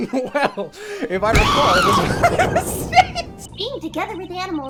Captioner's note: screaming; laughing